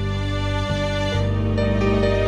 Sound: none

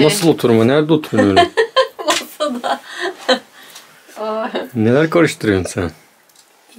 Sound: laugh

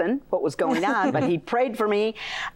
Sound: laughter

